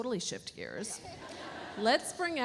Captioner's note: audience laughs